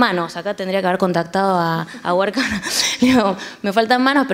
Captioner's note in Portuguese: risos